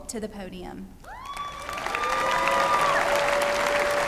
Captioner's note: applause and cheering